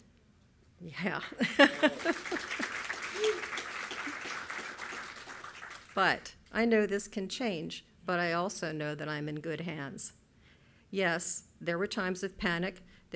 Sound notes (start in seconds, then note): 1.2 laughing; 1.5 audience applauding